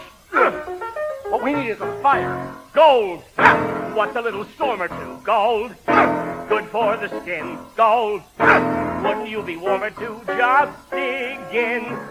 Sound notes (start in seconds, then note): 0.4 grunts; 3.0 singing; 5.9 grunts; 8.4 grunts